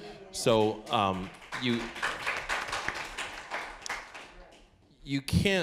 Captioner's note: applause